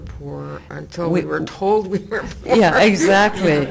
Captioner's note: chuckles